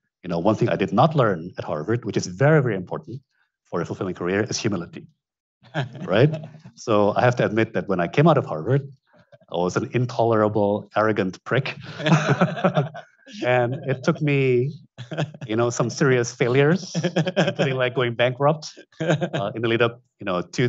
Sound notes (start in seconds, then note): 5.7 chuckles; 11.7 both laugh